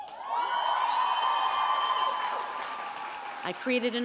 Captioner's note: audience cheering and applauding